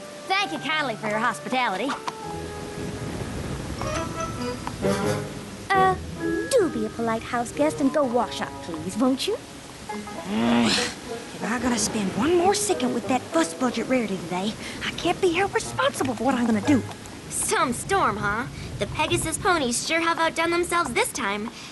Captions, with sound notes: Thank you kindly for your hospitality. Uh, do be a polite houseguest And go wash up, please, won't you? [ Groans ] If I got to spend one more second With that fussbudget Rarity today, I can't be held responsible for what I'm gonna do. Some storm, huh? The pegasus ponies sure have outdone themselves this time.